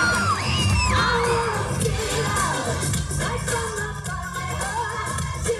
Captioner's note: chanting; cheering